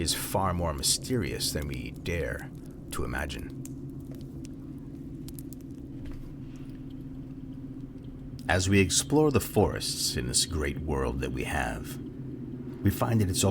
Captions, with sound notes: far more mysterious than we dare to imagine? [Fire crackles] As we explore the forests in this great world that we have, we find that it's